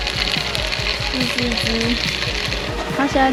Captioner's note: sizzling